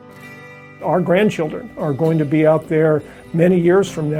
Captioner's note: male Voice